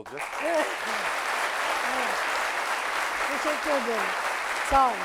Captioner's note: applause